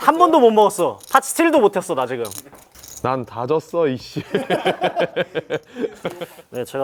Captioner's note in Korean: 웃음